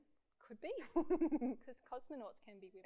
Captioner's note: giggles